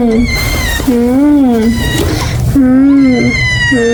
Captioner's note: ung